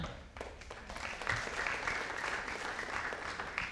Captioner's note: audience applauding